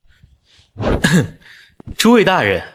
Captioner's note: cough